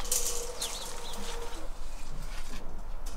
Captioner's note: birds chirping